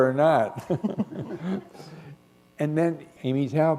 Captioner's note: chuckle